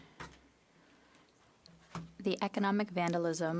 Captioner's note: speaking French